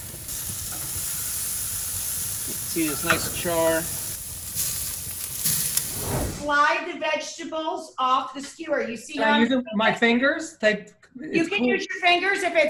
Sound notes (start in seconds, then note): 0.0 sizzling